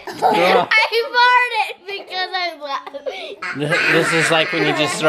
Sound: laughing

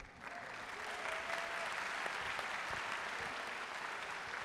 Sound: audience applauding

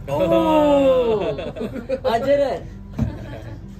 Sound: laughters

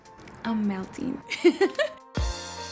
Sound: laughs; upbeat music

